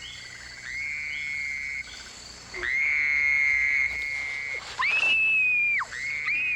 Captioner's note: someone screaming continues; Miranda screaming